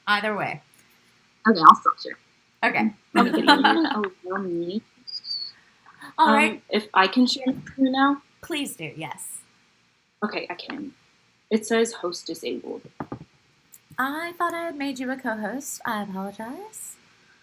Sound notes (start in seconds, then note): 3.1 laugh